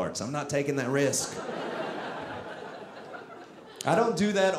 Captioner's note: audience laughing